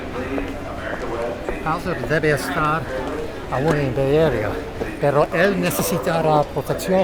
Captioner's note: agents speaking foreign language